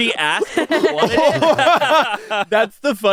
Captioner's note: everyone laughs